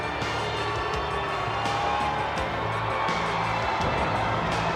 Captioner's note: crowd cheering